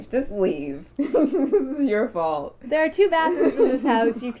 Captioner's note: laughing